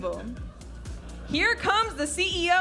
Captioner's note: audience laughing